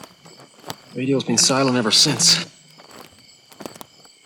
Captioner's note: static crackling